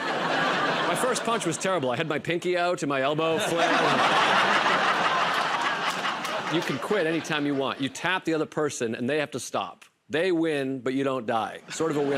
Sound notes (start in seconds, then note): 0.0 laughter; 3.3 laughter and applause; 11.7 laughter